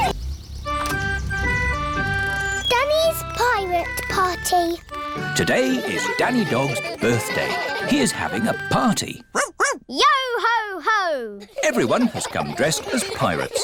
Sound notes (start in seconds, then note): 9.3 barks